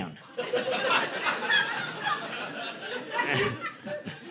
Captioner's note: audience laughing